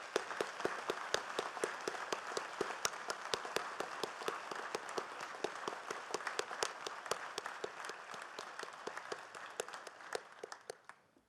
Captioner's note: applause